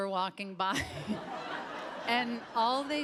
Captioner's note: Tig chuckles